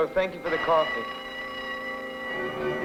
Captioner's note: merry-go-round bell ringing; lively carnival music